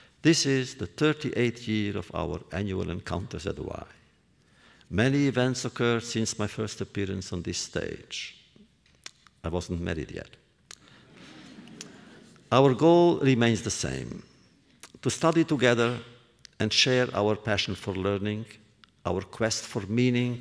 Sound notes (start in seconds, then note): 11.1 laughter